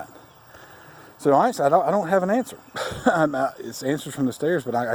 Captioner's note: laughs